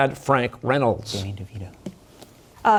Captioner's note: whispering